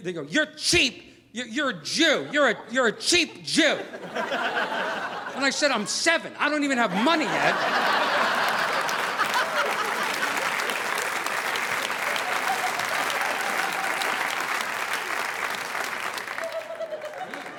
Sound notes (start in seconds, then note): 6.8 audience laughing; 7.0 audience applauding